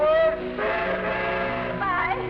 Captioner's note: train horn toots